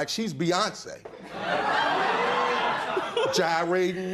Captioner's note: laughter